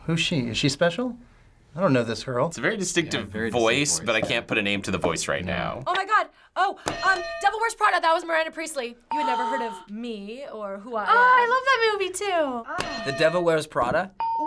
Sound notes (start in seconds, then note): 9.0 snootily; 12.7 ding